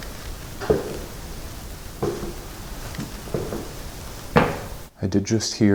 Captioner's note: clacking footsteps intensifies